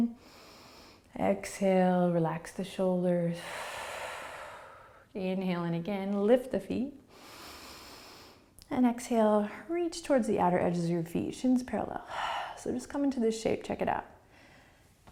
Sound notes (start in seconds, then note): 0.1 inhaling; 3.4 exhaling; 7.1 inhaling